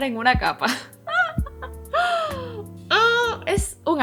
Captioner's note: laughs in pain